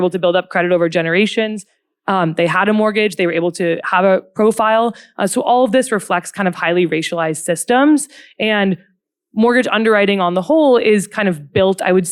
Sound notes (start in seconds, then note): none